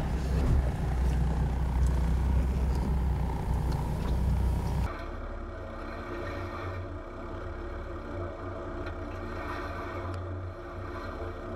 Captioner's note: vehicle sounds